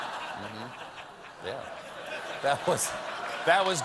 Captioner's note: laughter